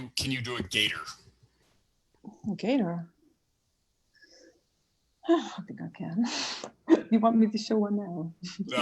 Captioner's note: laughs; chuckles